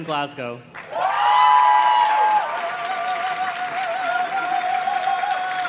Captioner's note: audience cheers and claps